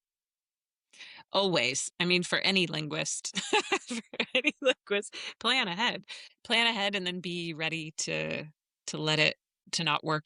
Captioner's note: laughs